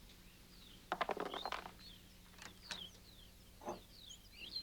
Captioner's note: dice clattering